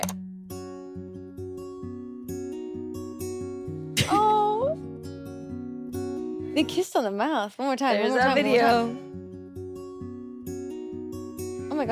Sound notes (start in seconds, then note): 0.9 gentle music; 5.2 chuckles; 9.5 gentle music